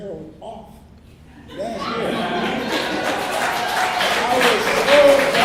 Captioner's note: laughter and clapping